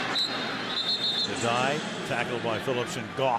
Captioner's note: whistle